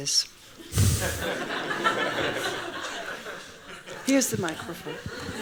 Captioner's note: laughing; laughs